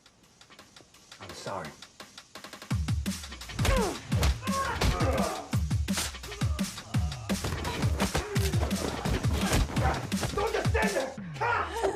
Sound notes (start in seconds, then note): 0.2 tense music; 3.4 blows thudding; 3.5 people groaning